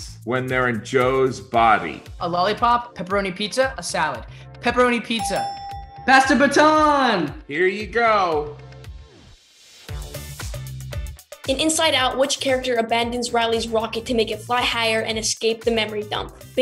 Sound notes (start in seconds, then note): 5.2 dinging; 9.9 upbeat music